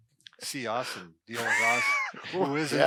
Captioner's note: laughter